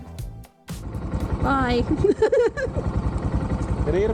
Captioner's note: laughing